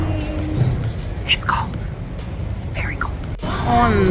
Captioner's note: whispers